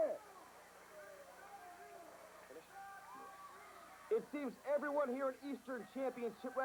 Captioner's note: crowd chatter